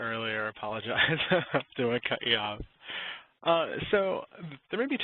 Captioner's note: chuckles